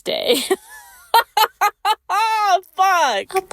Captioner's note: laughs